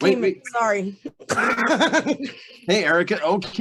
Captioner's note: laughs